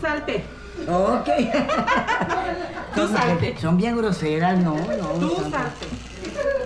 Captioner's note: laughs